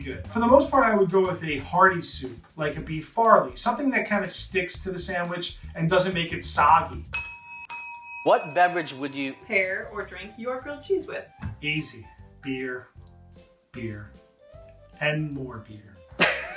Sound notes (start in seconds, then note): 7.1 ding